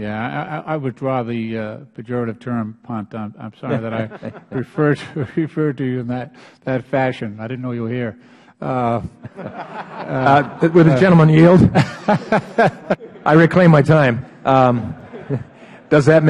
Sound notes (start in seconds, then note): 8.8 laughter